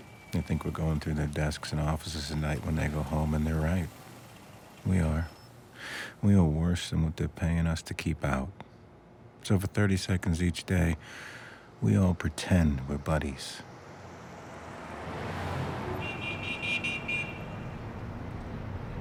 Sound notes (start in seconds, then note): 13.9 traffic humming; 15.9 car horn honking